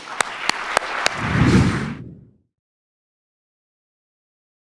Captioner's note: audience clapping; air swooshing